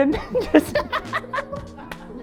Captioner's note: laughs